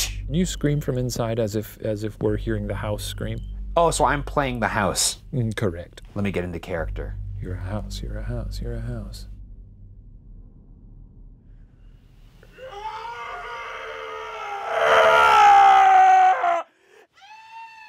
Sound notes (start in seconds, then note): 12.4 screaming